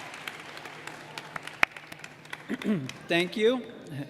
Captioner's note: cheers and applause